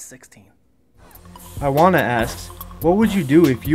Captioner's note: voiceover